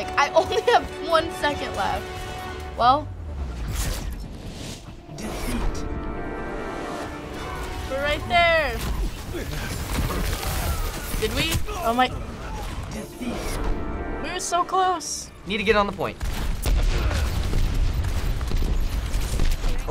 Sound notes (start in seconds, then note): 0.0 heroic music; 16.1 explosions